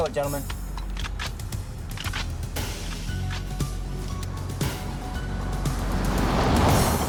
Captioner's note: tense music continues; guns clicking